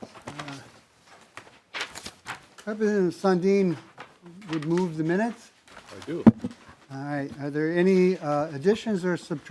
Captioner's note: gavel